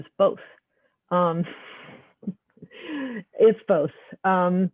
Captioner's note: chuckling